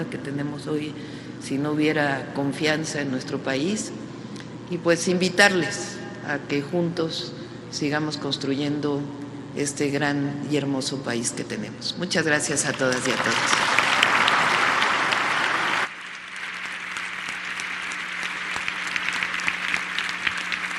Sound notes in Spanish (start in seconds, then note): 17.2 aplausos